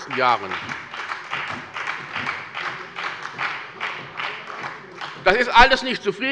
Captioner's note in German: Beifall bei der SPD und der FDP